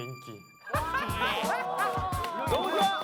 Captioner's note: laughing